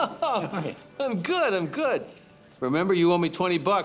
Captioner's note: laughs